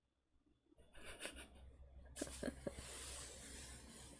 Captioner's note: laughs